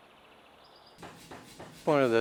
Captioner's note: machine bangs